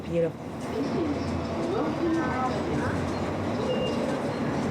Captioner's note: people chattering